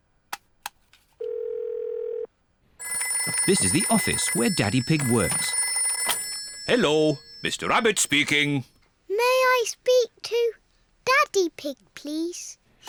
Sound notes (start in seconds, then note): 1.0 phone rings